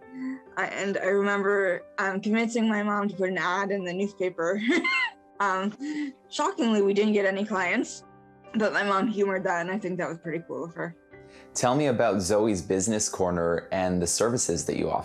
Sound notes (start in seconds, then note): 4.6 laughs